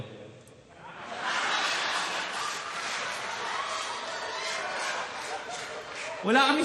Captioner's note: laughter